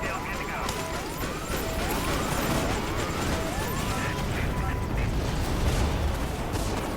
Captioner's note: machine beeping; gun firing